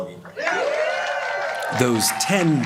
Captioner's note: cheering, applause